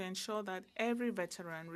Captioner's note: speaking French